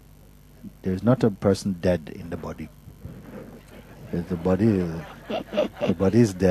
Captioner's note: laughter